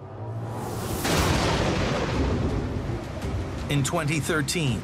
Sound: lightning cracks

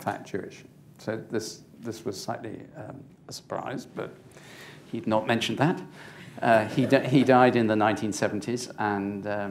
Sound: laughter

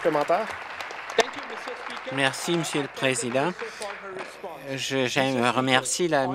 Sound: applause

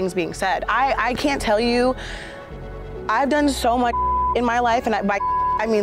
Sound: beep

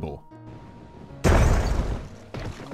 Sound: boosh

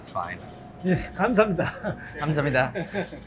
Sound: speaking in Korean

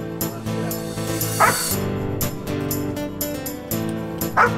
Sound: dog Barks

